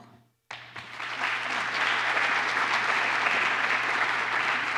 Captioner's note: applause